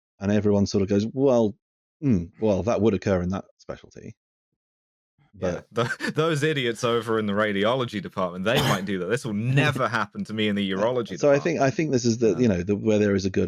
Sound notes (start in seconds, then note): 5.7 laughter